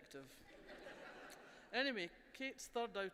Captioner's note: laughter